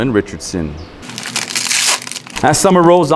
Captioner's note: paper crinkling